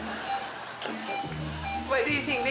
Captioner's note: audience laughing; machinery beeping